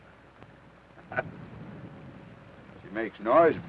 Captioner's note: Theodore chuckles